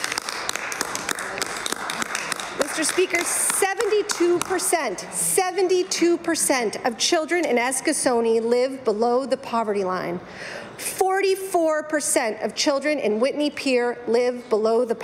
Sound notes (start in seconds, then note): 4.1 applause